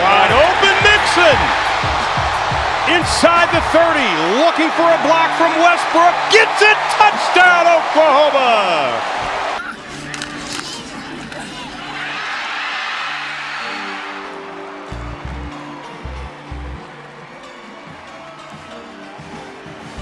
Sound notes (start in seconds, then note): 11.8 cheering